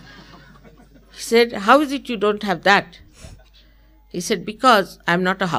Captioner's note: laughter